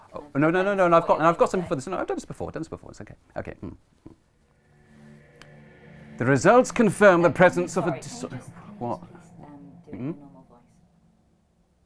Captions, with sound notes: No no no no, I've got I've got something for this, I've done this before, I've done this before it's okay - okay... [doing an accent] The results confirm the presence of a -